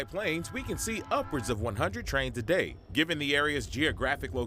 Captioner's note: train horn nats